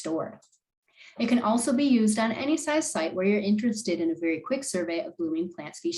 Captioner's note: click